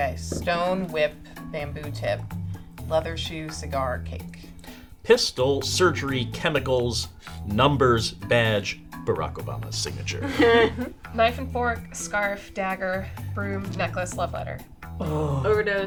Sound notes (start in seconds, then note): 10.1 laughing